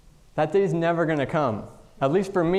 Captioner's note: none